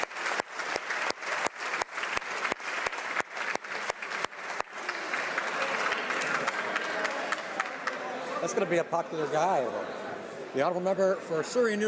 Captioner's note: some Applause